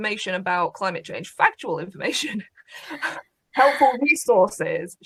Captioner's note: laughs